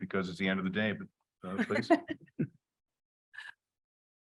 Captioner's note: chuckling